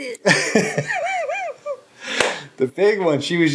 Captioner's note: laughing